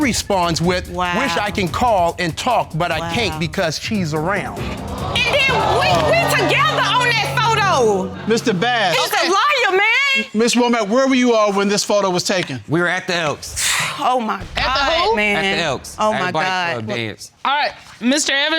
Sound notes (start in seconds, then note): 4.5 audience exclaiming; 13.6 sighs